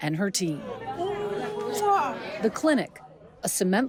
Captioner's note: smooches